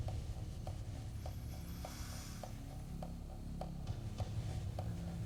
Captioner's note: inhales deeply